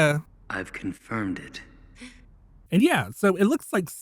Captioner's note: gasp